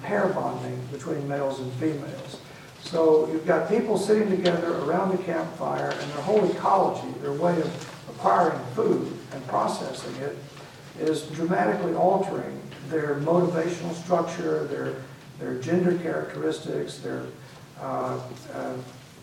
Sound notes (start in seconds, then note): none